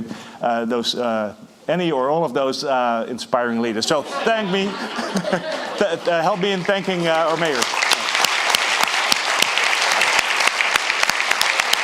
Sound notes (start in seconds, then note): 3.8 audience laughing; 8.6 audience applauding